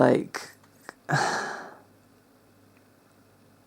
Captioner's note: sigh